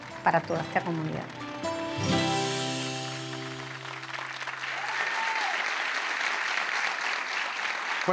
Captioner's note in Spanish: Ovación